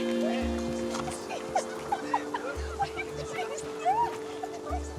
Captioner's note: laughing